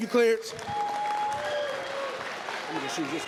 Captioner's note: applause, cheers